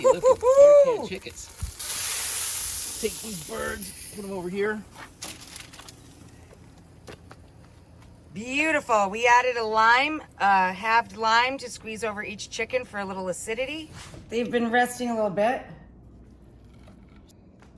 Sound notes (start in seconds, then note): 2.4 grill hissing